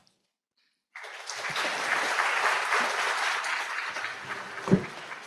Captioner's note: audience applauds